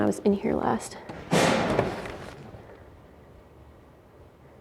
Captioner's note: locker door bangs